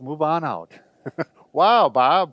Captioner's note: laughs